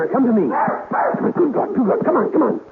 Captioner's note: baby crying